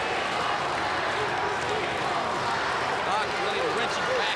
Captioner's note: crowd cheering